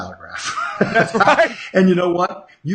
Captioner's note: laughing